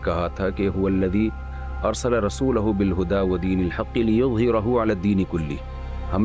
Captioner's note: reciting a verse of the Qur'an